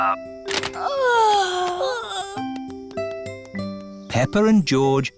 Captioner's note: peppa and george yawning